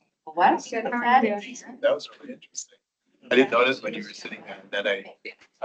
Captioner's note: chatter